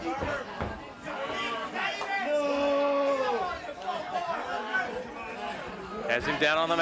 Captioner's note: body thudding; crowd clamoring; wrestler bellowing